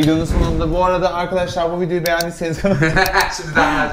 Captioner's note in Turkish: gülüşme